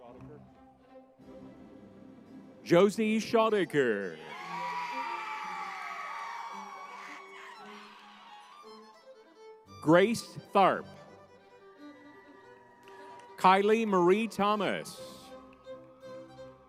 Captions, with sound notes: Schoettker, Josie Schoettker. (crowd cheering) Grace Tharp. (crowd cheering) (lively music) Kylee Marie Thomas, McKynzee Tippet.